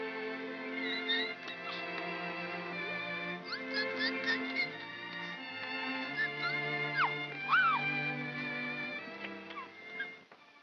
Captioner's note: baby coos; soft music